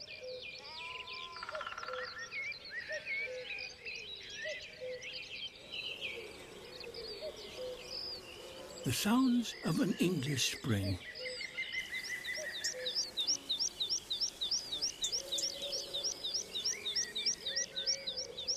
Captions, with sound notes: (CUCKOO CALLS) (SHEEP BLEATS, WOODPECKER TAPS, WOOD PIGEON COOS) (BLACKBIRDS SING, BEES BUZZING) The sounds of an English spring. (BIRDSONG AND BUZZING)